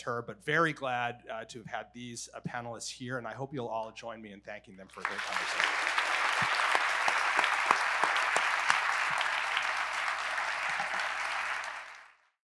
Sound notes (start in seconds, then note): 4.9 audience clapping